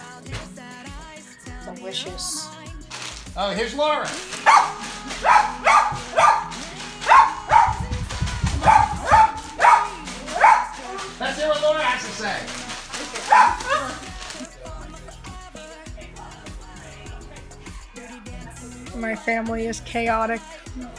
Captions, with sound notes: Delicious. - Here's Lauren. (dog barking) Let's what Lauren has to say. (dog barking) - My family is chaotic.